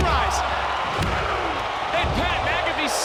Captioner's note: referee taps; crowd counts